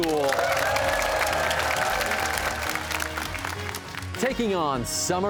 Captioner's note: cheers and applause